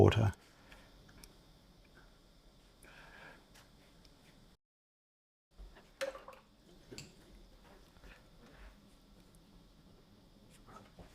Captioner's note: silence